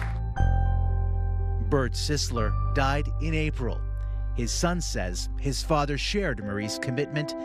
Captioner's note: applause